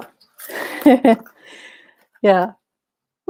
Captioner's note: chuckles